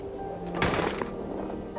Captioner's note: door thuds; footsteps crunching